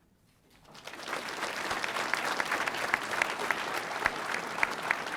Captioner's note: audience applauding